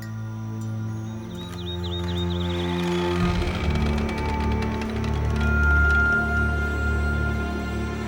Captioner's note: door creaking